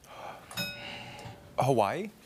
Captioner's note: bell rings